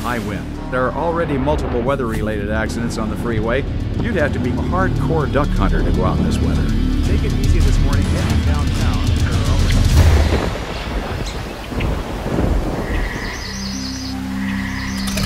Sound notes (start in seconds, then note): 7.4 weather Report Fades Out